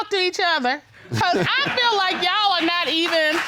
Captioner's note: chuckles